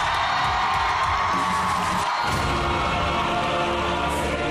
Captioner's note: crowd cheering; dramatic music playing